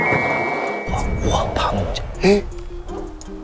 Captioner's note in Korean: 묵직한 문소리